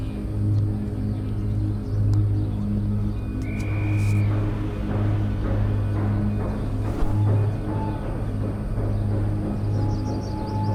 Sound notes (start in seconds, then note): 6.9 train chuffing